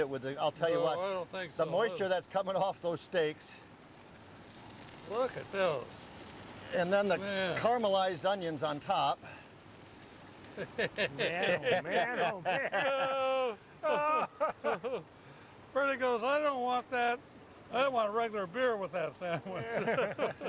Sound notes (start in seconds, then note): 10.5 laughing